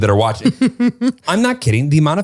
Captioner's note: laughs